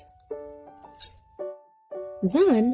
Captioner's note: shears slashing